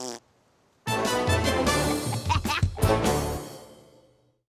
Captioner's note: both laugh